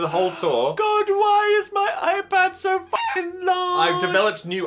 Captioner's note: chicken clucks